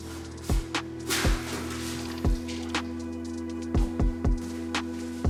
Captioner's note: water splashes